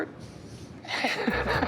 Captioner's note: laughs